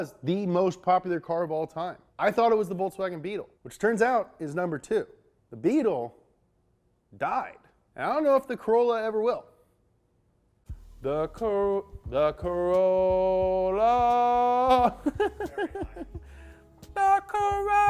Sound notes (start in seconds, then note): 14.7 laughs